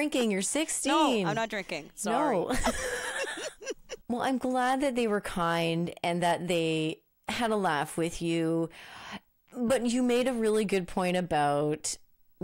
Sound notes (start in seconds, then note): 2.5 both laughing